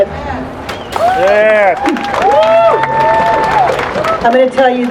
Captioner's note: applause